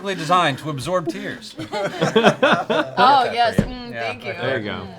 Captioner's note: laughter